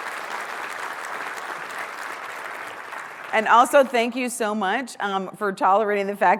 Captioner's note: applause